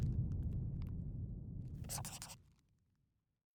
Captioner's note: scribbling